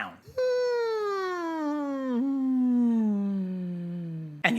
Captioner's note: descending hum